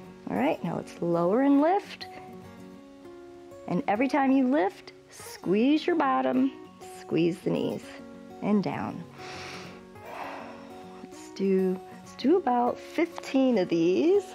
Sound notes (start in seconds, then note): 9.1 inhales and exhales